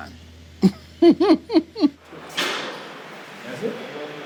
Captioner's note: laughs